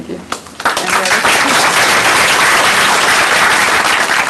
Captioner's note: applause